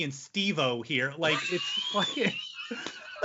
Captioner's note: laughing